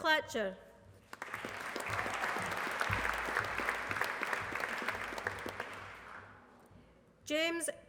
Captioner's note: applause